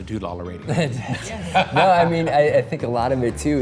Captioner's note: laughter